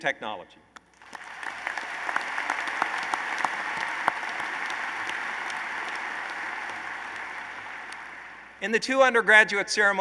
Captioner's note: applause